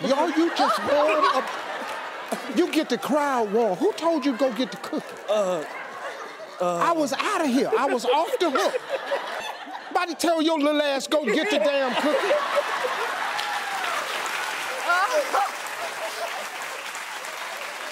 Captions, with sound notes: Are you just, you get the crowd warm. Who told you to go get the cookie? I was outta here, I was off the hook. (audience laughing) About to tell your little ass go get the damn cookie. (audience laughing) (audience applauding)